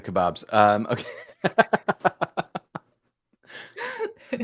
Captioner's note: laughter